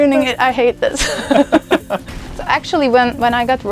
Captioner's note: laughs